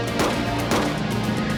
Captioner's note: two gunshots